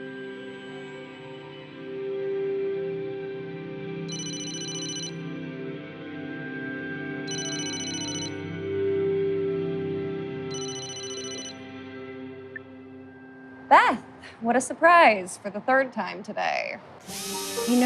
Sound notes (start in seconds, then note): 2.1 phone rings